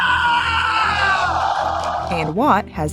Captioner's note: crowd cheers